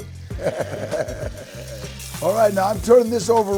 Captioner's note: Danny chuckles